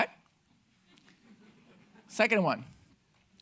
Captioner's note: audience laughing